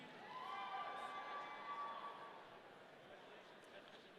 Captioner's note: audience cheering